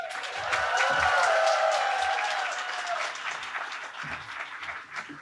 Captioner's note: cheering